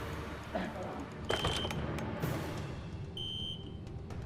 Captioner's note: beeping